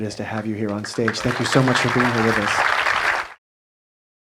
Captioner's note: audience applause